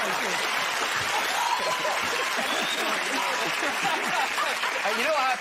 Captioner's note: cheers and applause